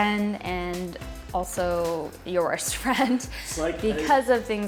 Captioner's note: laughs